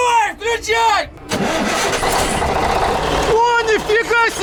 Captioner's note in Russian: звук машины